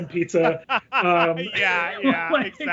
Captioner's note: laughs